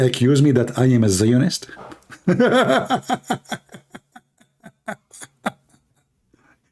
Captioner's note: Ketawa